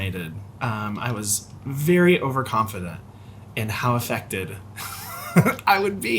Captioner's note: laughs